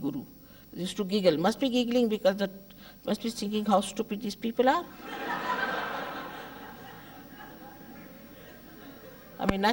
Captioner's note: laughter